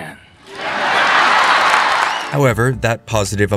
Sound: cheering

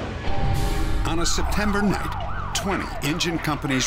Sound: sirens

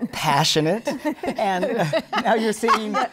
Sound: laughter

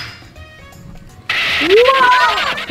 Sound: bus skids

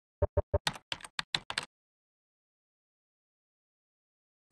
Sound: keys clicking

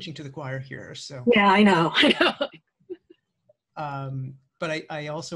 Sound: chuckles

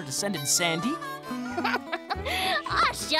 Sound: laughing

